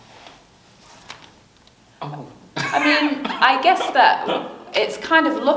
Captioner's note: laughs